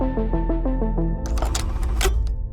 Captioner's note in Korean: 다이얼 소리